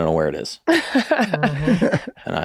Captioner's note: Rob and the Meg laugh